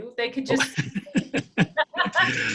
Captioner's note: laughter